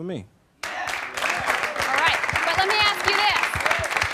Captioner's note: applause